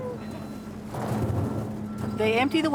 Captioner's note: corn rumbling